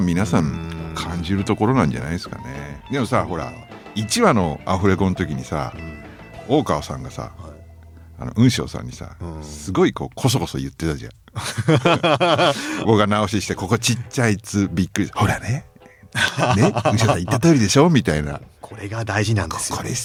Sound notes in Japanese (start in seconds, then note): 11.2 笑い; 16.0 笑い